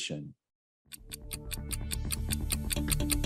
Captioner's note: clock ticking; upbeat music